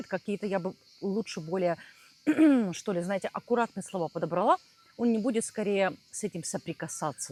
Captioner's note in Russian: откашливается